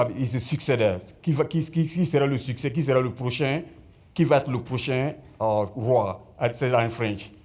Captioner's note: speaking French